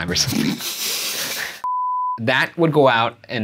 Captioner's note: laughing; beeping